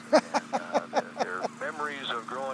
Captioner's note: laughing